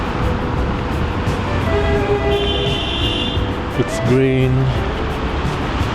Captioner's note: wind Blowing